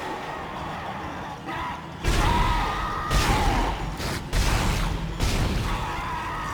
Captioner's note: screaming; gunshots; dramatic music